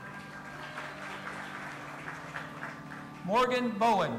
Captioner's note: audience applauding and cheering